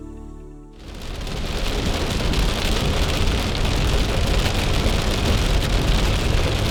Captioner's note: rain pelting on windshield